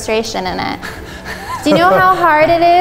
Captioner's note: laughs